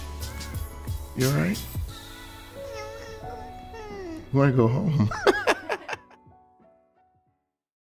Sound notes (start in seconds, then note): 5.0 laughing